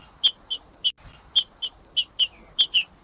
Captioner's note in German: trinca ferro cantando